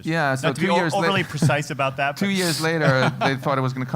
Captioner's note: laugh